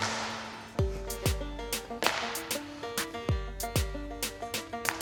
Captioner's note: circle slapping on floor; upbeat music; circle slapping on floor